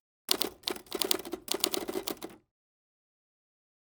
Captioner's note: keyboard clacking